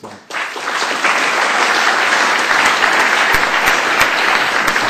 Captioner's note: applause